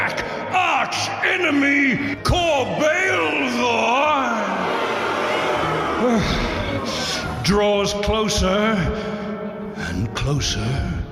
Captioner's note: audience boos